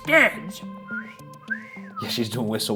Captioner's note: Shane whistling